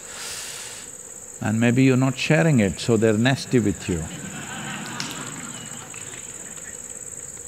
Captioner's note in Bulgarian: Смях